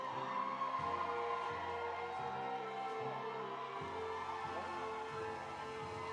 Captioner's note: audience applauding; audience cheering